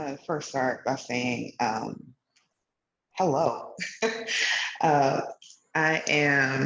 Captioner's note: laughs